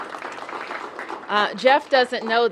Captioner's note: applause